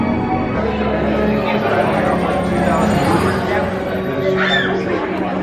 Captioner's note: guests murmuring